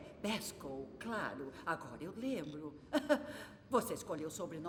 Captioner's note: chuckling